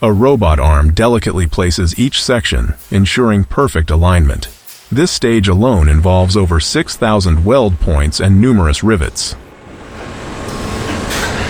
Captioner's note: engine revving